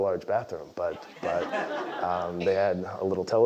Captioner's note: laugh